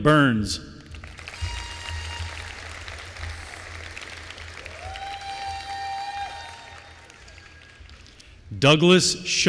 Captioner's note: applause